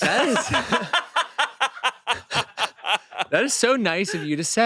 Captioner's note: they laugh